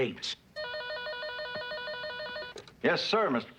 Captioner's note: phone rings